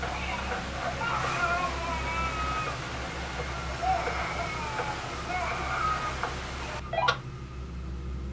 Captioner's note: baby cries